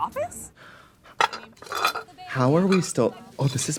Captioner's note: Katya gasps